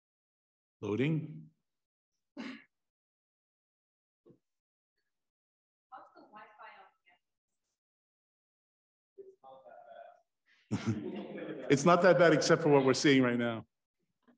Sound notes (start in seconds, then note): 2.4 student coughs